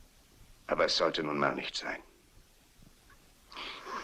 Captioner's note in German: seufzt